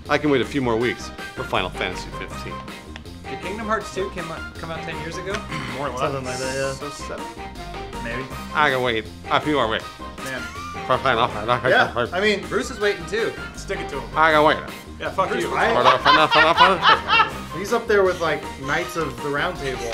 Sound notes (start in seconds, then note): 15.5 laughter